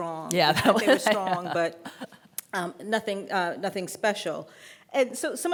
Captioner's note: laughing